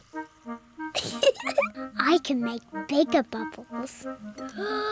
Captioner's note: oinks; giggles; takes big breath